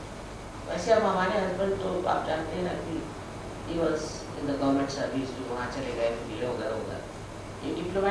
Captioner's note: hindi